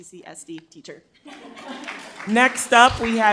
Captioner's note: crowd laughs and claps